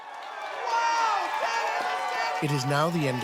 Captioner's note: crowd cheering